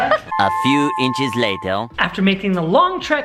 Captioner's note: french Voice